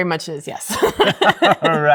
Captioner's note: laughter